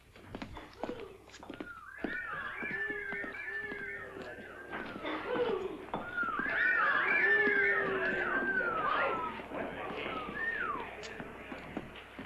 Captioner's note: whistling cat calls